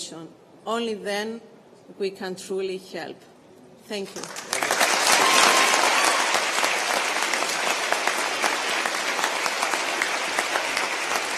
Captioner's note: applause